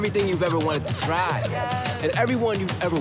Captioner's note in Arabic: ضحك جماعي